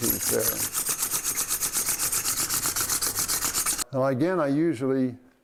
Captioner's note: metal and stone scraping